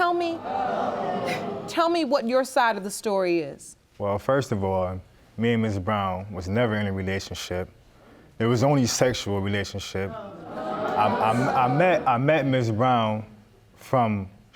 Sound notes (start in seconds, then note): 0.4 chuckles; 11.7 stutters